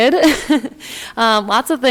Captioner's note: she chuckles